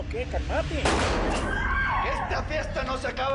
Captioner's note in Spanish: Disparo; Gritos